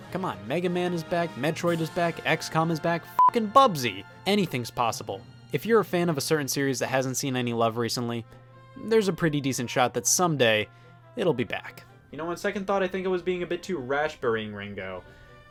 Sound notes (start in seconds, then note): 3.1 beep